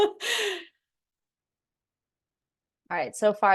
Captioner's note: giggles